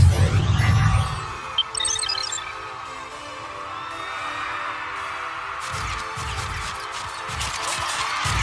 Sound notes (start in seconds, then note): 1.2 crowd cheering; 5.1 cameras clicking